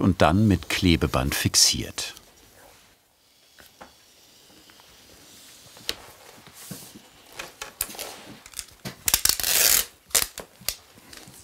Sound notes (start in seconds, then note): 9.0 adhesive tape ratchets